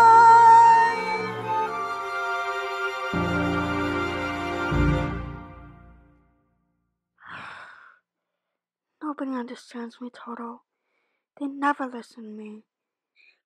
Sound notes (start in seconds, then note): 7.2 Dorothy sighs